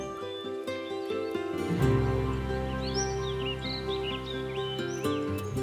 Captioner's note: birds chirping; upbeat music